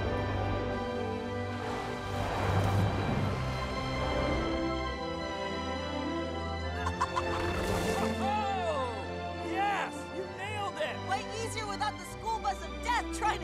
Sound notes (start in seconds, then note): 3.3 romantic music; 6.7 Cruise laughs